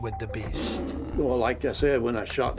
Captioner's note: Bigfoot growling